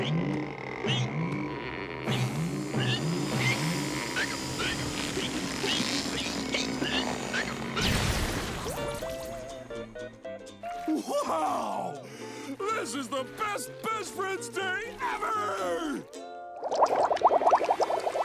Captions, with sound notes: [explosion] Wow! This is the best Best Friends Day ever!